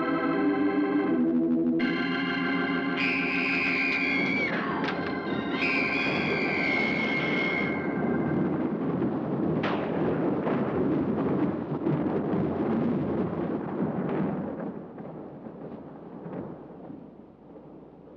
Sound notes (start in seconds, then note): 2.4 eerie organ music; 3.0 screaming; 8.1 thunder rolling